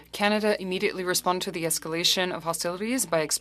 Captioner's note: speaking French